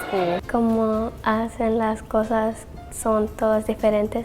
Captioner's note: speaking Spanish